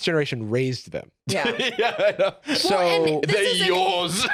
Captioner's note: laughs